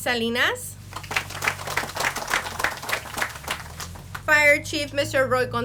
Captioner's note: audience applauds